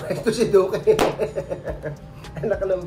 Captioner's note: laugh